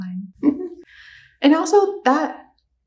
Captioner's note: sassy laughs